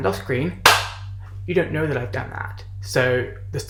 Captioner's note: claps